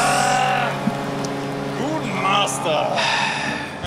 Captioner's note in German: Seufzen